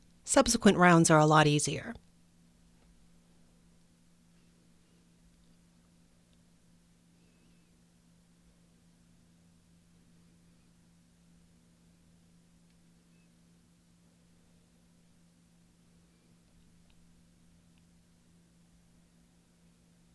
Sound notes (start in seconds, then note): 6.0 silence